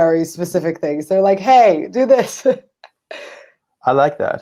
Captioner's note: chuckles